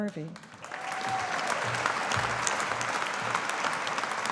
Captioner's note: audience applauding